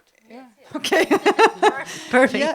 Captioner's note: laught